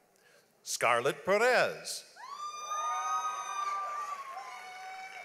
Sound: audience applauds

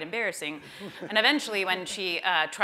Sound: laughter

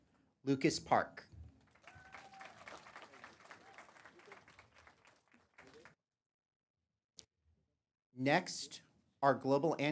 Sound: applause

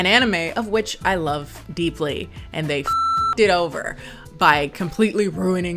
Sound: beep

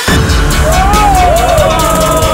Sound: hooting

